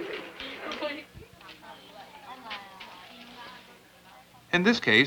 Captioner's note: filipino speech; indiscriminate chatter